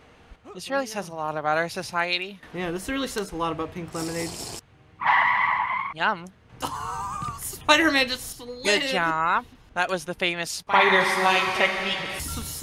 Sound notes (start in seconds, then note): 4.0 Minecraft sipping; 4.9 tires screeching